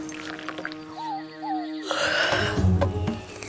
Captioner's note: bird hoots